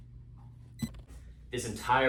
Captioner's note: slow beeping begins